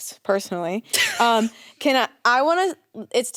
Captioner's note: laughs